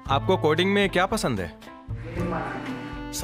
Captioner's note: speaking hindi